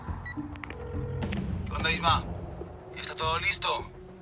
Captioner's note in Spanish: Suena la otra línea